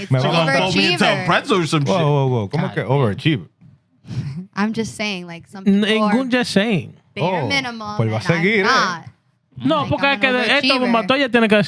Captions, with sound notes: Do you ever achieve it? Whoa, whoa, whoa, whoa. Whoa, whoa, whoa, whoa. I'm just saying like some people are more-- (Speaking Foreign Language) Bare minimum and I'm not. No, (Speaking Foreign Language)